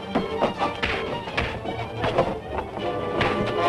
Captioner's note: punches thudding